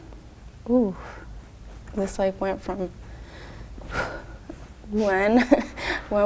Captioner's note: exhales